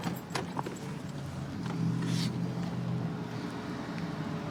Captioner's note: distant traffic hum